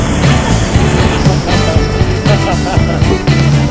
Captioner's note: hahaha